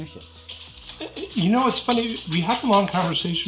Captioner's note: dog scratching